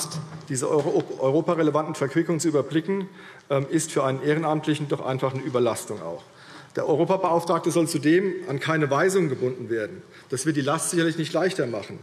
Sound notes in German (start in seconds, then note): none